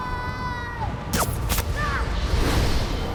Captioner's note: pew, pew